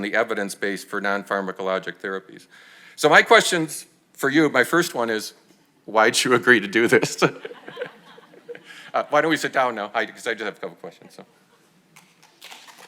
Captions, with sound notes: and the evidence-based for non-pharmacologic therapies. So, my questions for you, my first one is, why'd you agree to do this? (chuckles) (audience laughs) Why don't we sit down now? 'Cause I do have a couple questions, though.